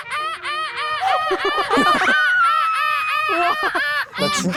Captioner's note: seagull chorus; seagull sound